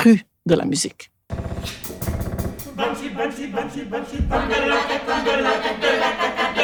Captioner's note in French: Chant